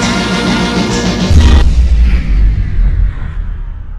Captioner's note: powering down sound effect